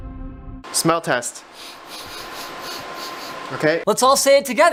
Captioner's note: sniffs aggressively